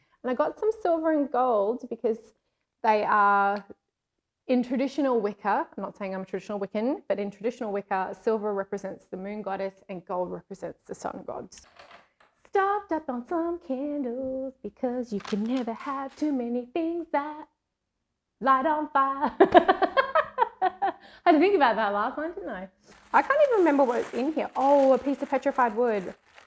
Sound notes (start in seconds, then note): 12.4 singing; 19.4 laughs